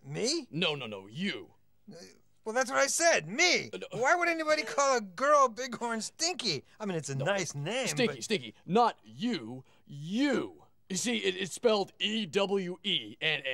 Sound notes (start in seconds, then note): none